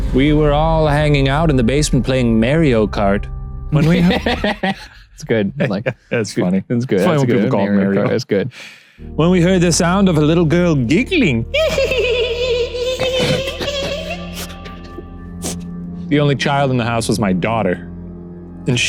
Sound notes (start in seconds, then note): 5.4 laughs; 11.5 giggles